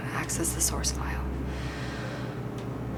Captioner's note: sighs